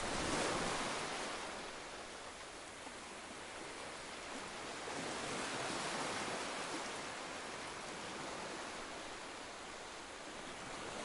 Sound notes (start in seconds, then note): 0.2 sounds of ocean waves lapping on the beach